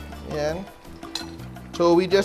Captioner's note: clang